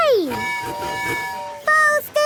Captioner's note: tooting